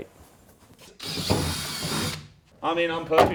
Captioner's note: battery-powered drill